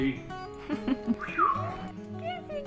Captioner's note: chuckles